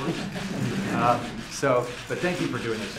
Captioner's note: laughter